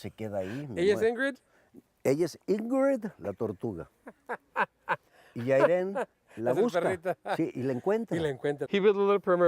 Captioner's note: talking in spanish